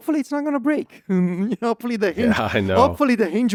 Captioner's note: laughs